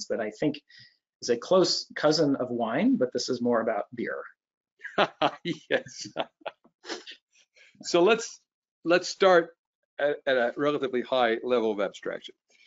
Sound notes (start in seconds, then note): 4.8 laughs